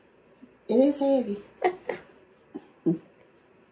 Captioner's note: laughs